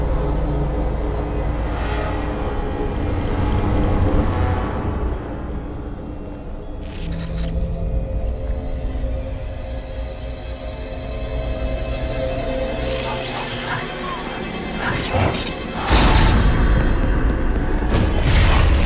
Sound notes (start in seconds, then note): 6.7 static crackling; 12.8 static crackling